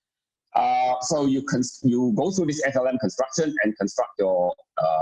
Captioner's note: murmur